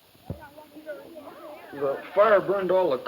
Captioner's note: group chatter